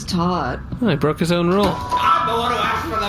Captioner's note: shouting